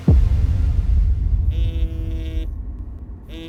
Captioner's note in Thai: เสียงโทรศัพท์สั่น